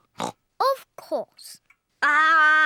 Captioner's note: oinks